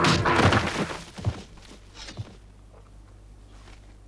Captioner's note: boulder slams